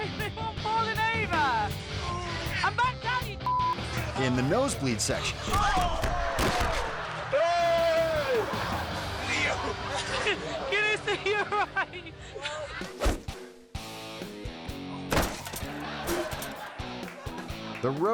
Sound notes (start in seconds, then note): 3.4 beep; 5.2 athletes groaning; 7.1 audience laughing; 13.2 dot whooshing; 13.7 rock music; 15.1 rider crashing; 15.4 audience laughing; 16.6 rock music